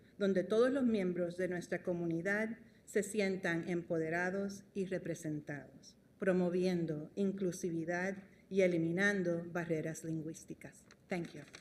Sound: speaking spanish

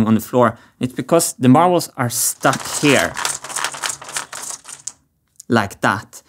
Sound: marbles roll and get stuck

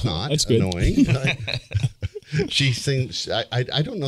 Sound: everybody laughing

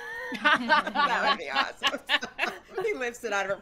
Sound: group laughing; players laughing

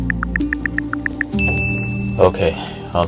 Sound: text Notification

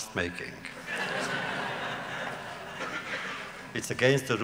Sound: laughter

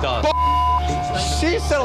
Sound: beep

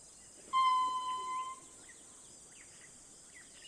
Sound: lemur squeaking

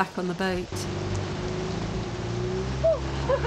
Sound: rain and boat engine; laughing

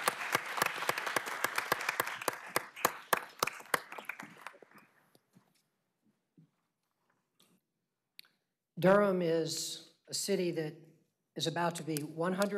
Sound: applause

